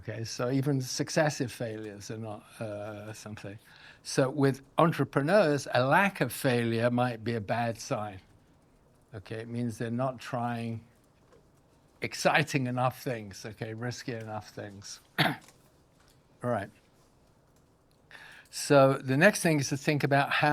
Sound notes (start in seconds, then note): 15.0 coughs